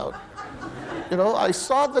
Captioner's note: audience laughing